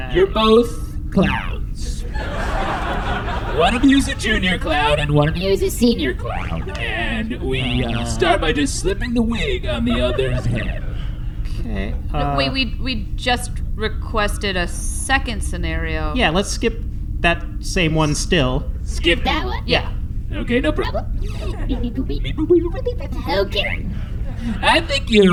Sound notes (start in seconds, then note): 11.2 quietly; 19.1 voice glitching up